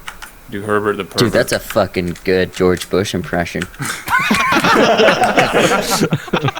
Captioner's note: creepy Giggling